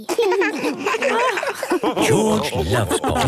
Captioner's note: laughs